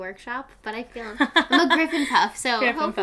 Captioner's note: laughing